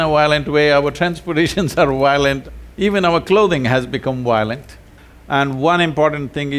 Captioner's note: laughs